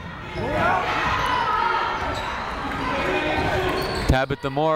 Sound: people shouting in the crowd

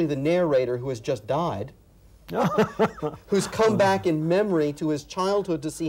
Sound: laughs

